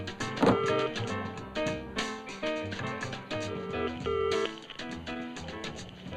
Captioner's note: phone dial tone beeping